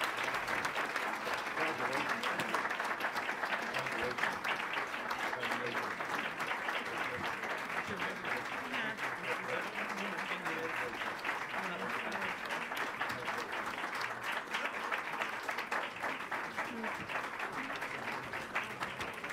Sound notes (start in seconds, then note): 0.3 applause; 9.8 applause